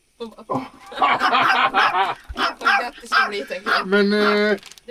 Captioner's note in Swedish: skratt